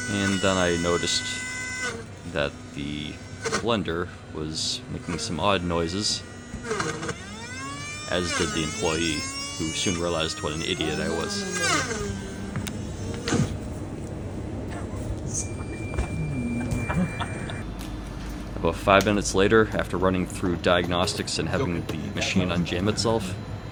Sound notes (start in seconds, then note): 16.1 embarrassed laughter